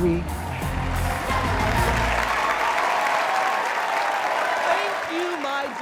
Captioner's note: audience cheering